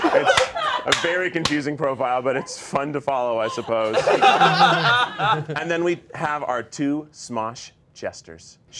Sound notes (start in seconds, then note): 3.4 laughing